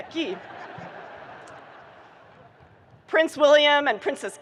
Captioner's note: audience laughing